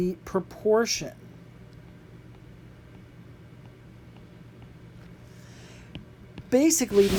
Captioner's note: writing